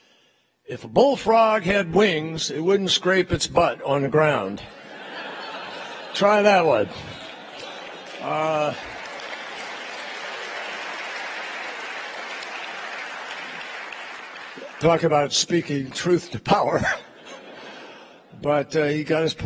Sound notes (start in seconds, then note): 4.4 laughter; 7.1 applause; 13.5 laughter